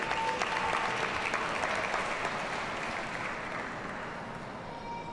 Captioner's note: audience applauds